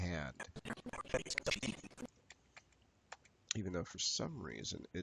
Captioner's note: audio skipping